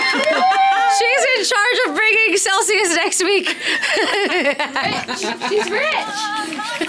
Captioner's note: laughs